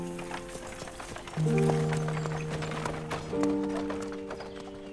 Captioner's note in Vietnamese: Tiếng xe ngựa